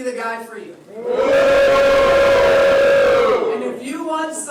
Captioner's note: jeering